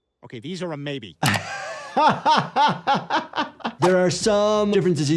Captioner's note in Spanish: el doctor se ríe